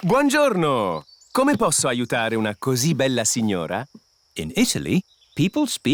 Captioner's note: speaks italian